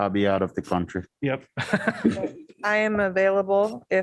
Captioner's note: laughter